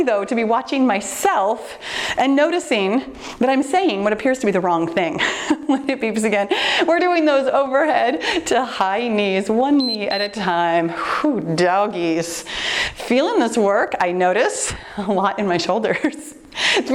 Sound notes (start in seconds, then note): 9.8 timer beeps